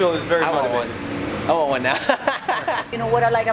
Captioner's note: laughter